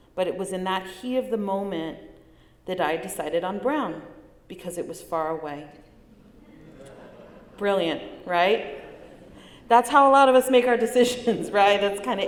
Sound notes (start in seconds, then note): 6.2 light laughter